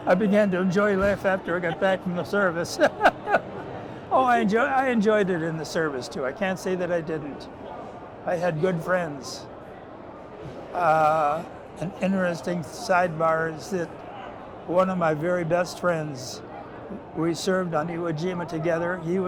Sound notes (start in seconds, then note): 3.3 laughs